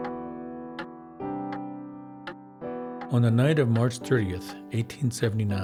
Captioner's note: clock ticking